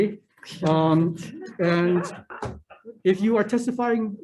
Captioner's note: all laughing